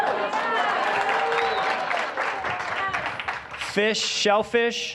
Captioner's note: audience laughing; applause, cheering